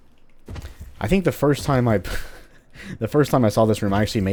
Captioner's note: chuckles